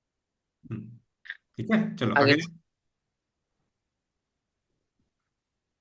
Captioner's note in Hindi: गला साफ़ करने की आवाज़